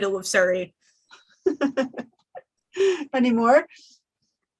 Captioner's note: laughs